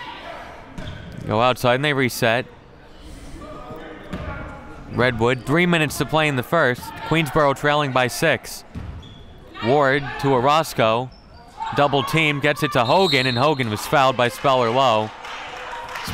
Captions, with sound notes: go outside and they reset. (Crowd murmuring) Redwood, three minutes to play in the first, Queensborough trailing by six. Ward, to Orosco, double teamed, gets it to Hogan, (Referee blows whistle) and Hogan was fouled by Speller-Lowe.